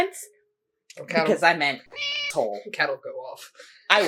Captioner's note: meow